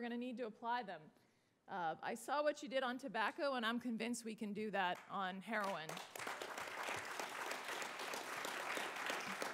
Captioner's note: applause